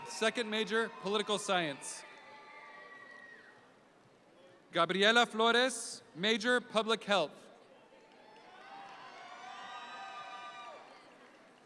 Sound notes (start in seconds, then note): 2.1 audience cheer; 8.2 audience cheer